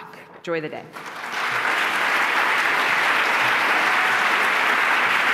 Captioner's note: applause